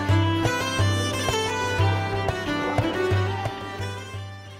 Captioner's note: indisticnt pedestrian chatter